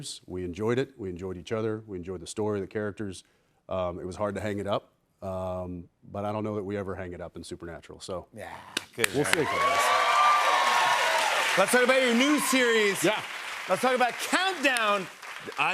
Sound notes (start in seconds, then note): 9.0 cheers and applause